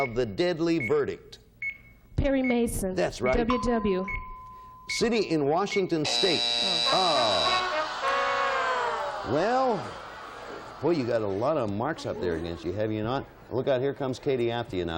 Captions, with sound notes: He lost the Case of the Deadly Verdict. -Perry Mason. -That's right. -"WW". -City in Washington State-- -(buzzer sounds) -Oh. Well, boy, you got a lot of marks up there, have you not?